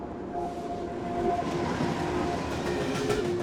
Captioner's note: train rushing past